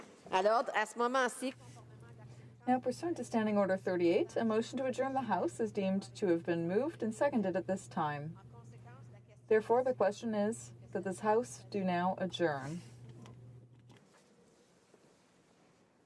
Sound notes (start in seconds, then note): 6.2 speaking French